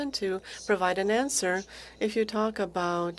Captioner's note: speaking French